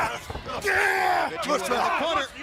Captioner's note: crowd cheering